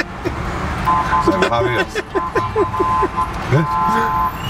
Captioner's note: laughs